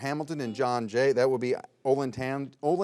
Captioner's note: buzzer beeps